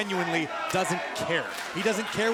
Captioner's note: crowd cheering